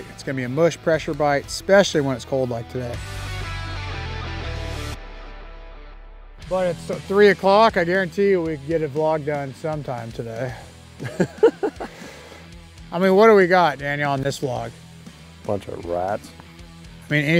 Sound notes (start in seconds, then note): 3.4 upbeat guitar music; 11.0 laughs